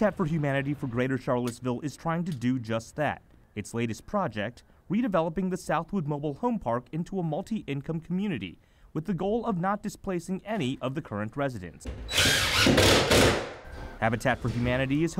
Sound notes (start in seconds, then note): 12.0 drilling